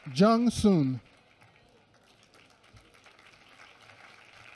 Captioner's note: applause